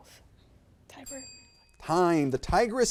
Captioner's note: bell ringing